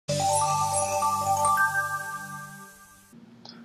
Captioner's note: chimes